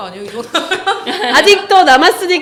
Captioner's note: ha ha ha ha ha ha ha ha